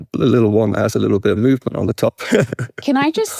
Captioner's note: chuckles